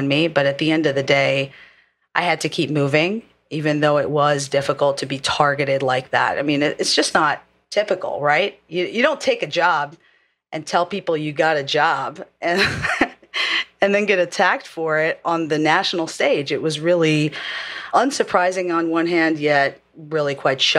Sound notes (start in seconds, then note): 12.6 laugh